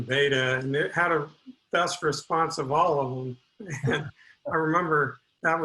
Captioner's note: laughs